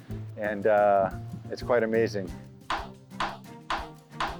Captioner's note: gavel banging